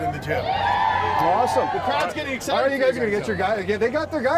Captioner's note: crowd cheers